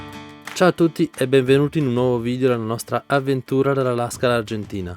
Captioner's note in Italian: Applauso